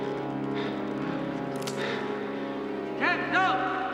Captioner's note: gun cocking